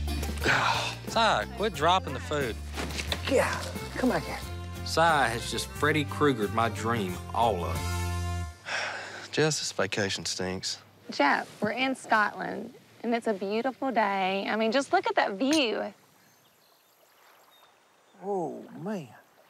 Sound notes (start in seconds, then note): 8.6 sigh; 16.0 birds chirping